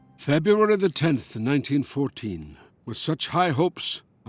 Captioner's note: Voz en off